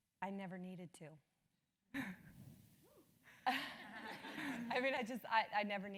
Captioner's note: laugh